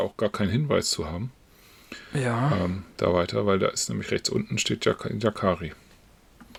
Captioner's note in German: räuspern